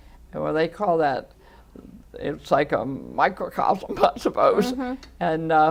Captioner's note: laughing